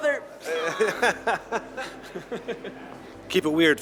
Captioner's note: both laughing